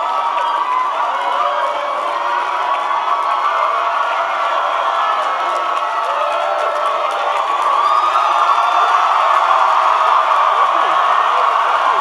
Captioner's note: cheering